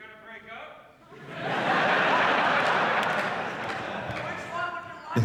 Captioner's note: audience laughs